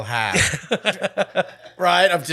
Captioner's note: laughing